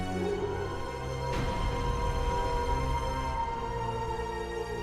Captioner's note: Eric howling in the distance